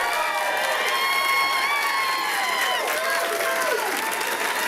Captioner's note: audience applauding